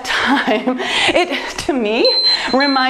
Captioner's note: timer beeps